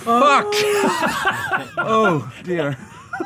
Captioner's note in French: rires